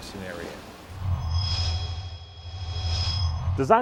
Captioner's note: sound Effects